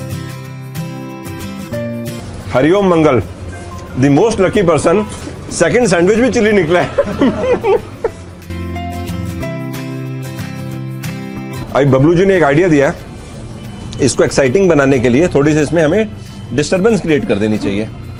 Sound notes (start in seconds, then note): 6.7 everyone laughing